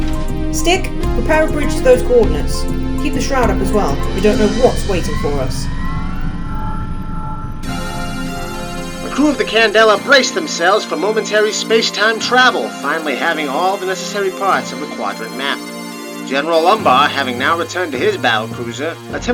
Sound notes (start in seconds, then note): 6.1 The Candela's engines whirr